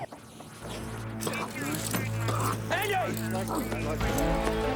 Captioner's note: police radio chattering